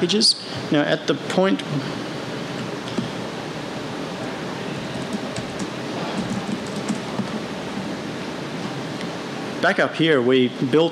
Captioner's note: typing